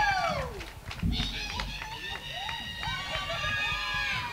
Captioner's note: cheering